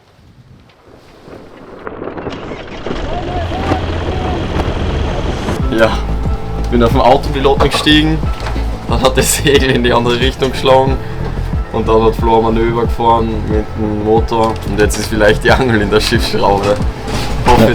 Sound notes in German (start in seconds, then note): 2.3 Windgeräusche und Motor